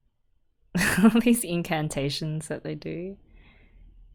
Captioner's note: laughs